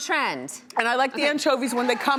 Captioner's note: crowd cheering